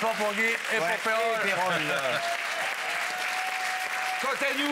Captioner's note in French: applaudissements